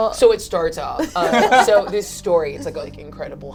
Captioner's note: laugh